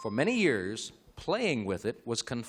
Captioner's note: ding